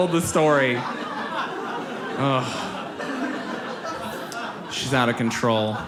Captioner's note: audience laughs